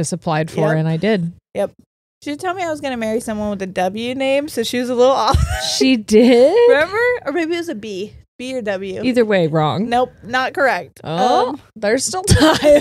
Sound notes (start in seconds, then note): 5.3 laughs; 12.3 both laughing